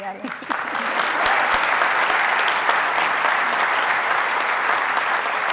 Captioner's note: audience applauds